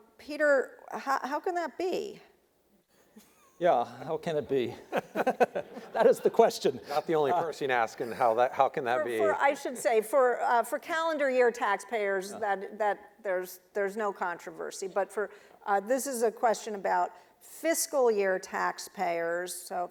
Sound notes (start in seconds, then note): 4.6 laughing